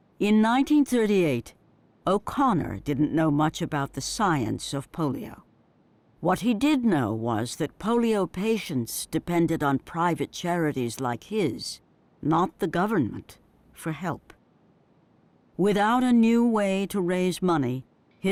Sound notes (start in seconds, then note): none